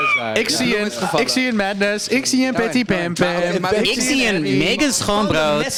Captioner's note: Nikkie Plessen voice